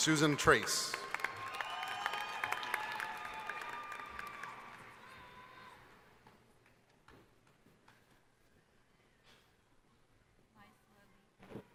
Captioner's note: applause